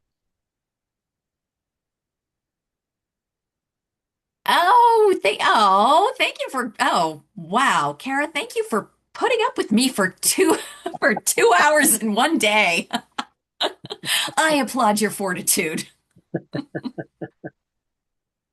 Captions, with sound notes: Oh, wow. Cara, thank you for putting up with me for two hours in one day. [LAUGHTER] I applaud your fortitude. [LAUGHTER]